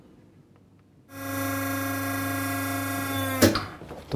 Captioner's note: soft whirring